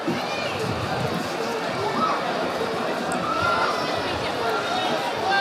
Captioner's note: audience chattering